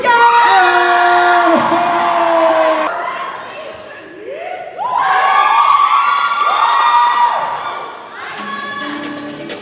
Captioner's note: cheers and applause